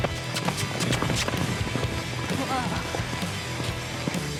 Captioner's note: fast hoof beats